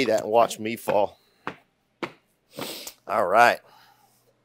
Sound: stomping snow-covered feet

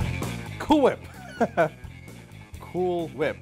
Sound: laughs

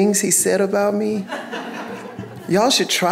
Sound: audience laughing

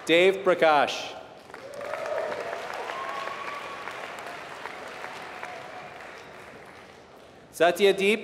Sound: applause

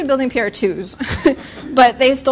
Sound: laughter

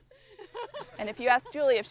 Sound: laughing

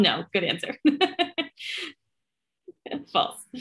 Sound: laughter

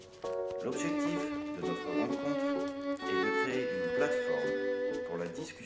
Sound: French

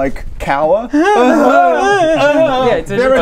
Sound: hrrrrgrrggrggggrrrgghh!

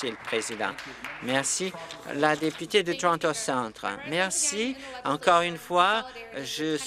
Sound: some Applause

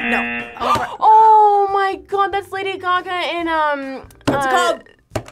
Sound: buzzer; gasps

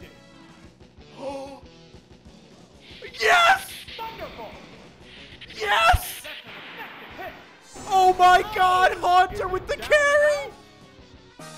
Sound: gasps

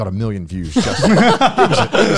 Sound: laugh

